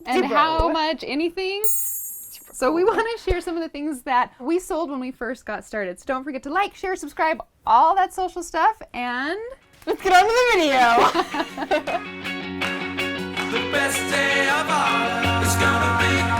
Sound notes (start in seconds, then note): 10.8 laughter